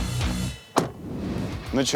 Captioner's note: car door closes